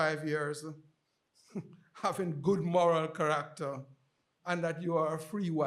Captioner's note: chuckles